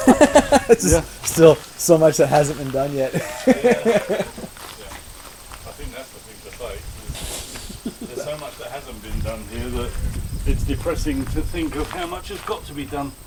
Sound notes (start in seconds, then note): 3.0 laughter